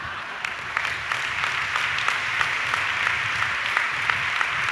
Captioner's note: audience clapping